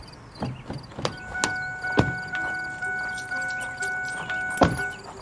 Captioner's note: car door bell beeps